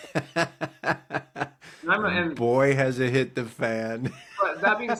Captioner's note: laughing